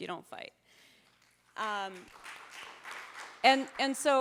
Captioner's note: audience applauding